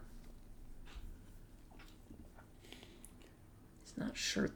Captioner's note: sniff